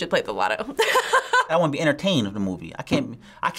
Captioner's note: laughs